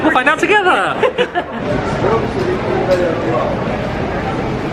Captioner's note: laughing